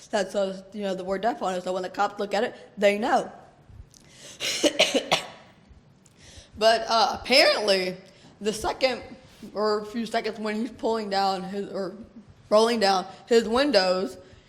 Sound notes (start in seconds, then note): 4.4 coughs